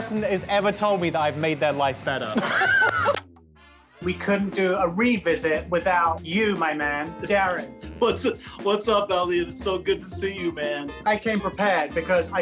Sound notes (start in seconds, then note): 2.3 laughing